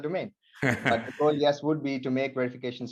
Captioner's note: laughs